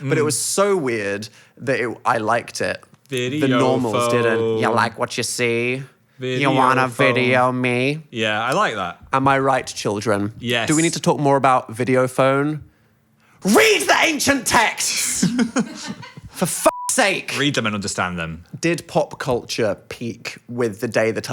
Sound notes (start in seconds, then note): 15.0 Phil laughs